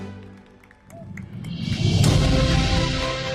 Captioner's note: audience applauding; uplifting music continues